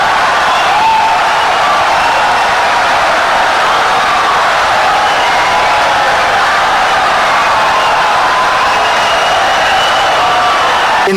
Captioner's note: wild applause and cheering for 17 seconds